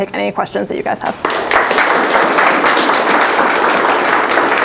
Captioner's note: applause